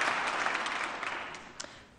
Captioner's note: applause